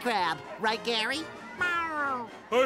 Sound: meowing

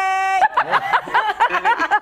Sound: laughter

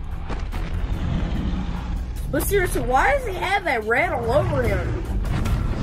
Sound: growling

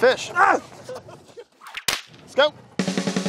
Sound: whip cracking

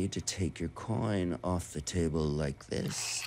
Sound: coin scrapes

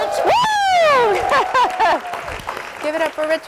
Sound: audience applauding

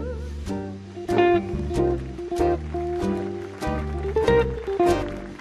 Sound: audience clapping

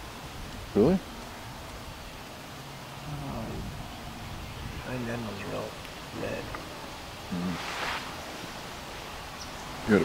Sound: wind

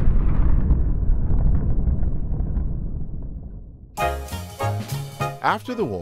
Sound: explosion

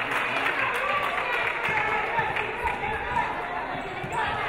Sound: audience applauding

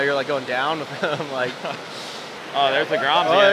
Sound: laughs

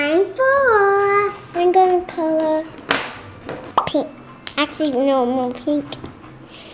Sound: sighs

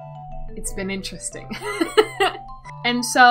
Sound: whispers

